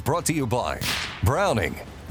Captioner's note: gunshot fires